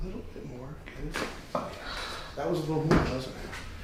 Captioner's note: joint cracking